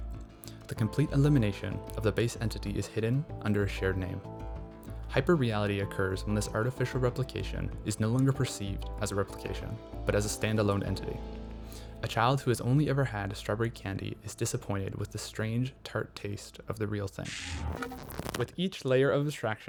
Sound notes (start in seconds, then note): 17.2 glitch